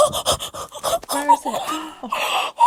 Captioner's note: fast breathing; gasping; heavy breathing